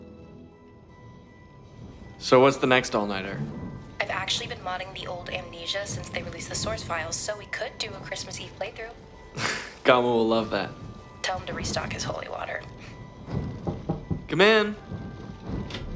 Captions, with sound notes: What's the next all-nighter? I've actually been modding the old amnesia since they released the source files so we could do a Christmas Eve playthrough. Gama will love that. Tell him to restock his holy water. [door knock] Come in.